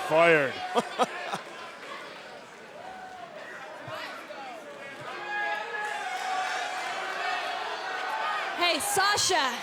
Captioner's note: laughter